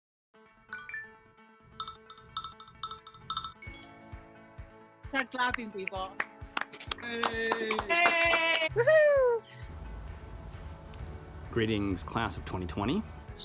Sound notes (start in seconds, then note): 1.8 upbeat music; 6.2 group applauding